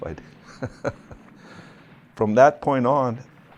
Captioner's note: laughs